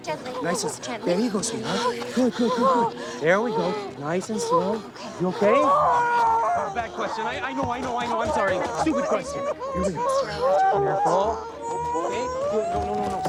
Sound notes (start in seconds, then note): 5.1 groaning loudly; 10.5 groaning